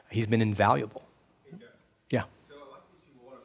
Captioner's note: voiceover